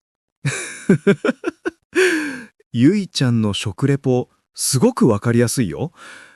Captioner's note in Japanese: 笑い